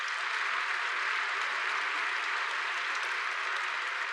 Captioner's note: applause